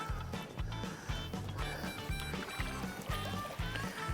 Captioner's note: water splashes